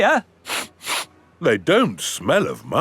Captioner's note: sniffs